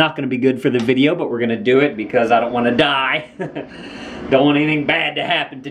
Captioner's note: laughs